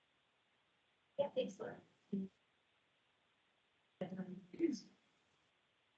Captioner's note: indistinct chatter